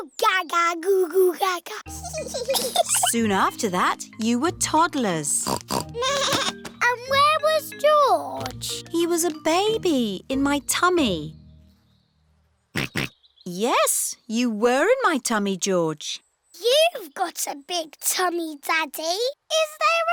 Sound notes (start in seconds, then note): 5.4 snorts; 6.0 bleats; 12.8 snorts